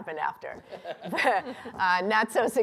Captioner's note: laughter